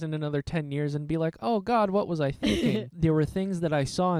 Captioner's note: laughing